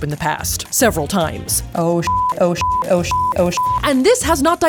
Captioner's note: beep